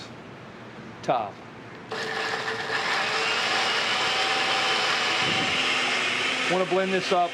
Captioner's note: grinding